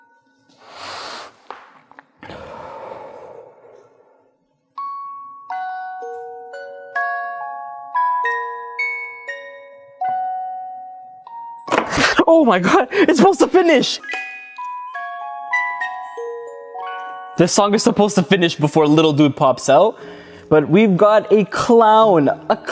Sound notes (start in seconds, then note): 2.2 man takes deep breath; 4.8 tinkly Jack in the box music; 11.8 jack in the box pops; 14.0 tinkly Jack in the box music